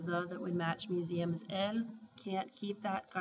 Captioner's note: spanish